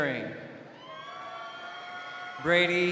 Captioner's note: crowd cheering